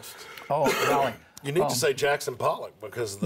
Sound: coughs

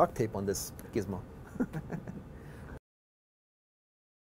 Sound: laugh

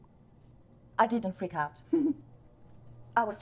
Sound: Tom giggling

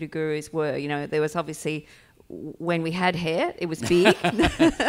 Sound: laughs

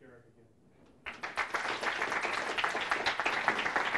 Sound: applause

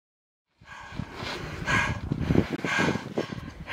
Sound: heavy breathing

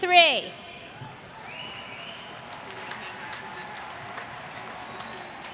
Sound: applause

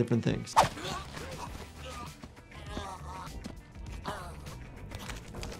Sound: victim gasps and gurgles

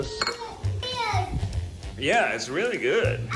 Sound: shouts

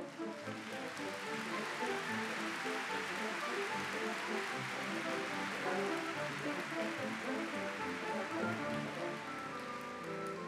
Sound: applause

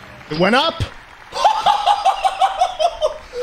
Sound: ecstatic whooping

